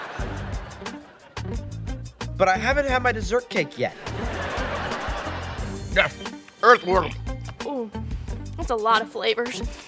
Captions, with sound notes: But I haven't had my dessert cake yet. [laughing] Earth worm. Oh... That's a lot of flavors.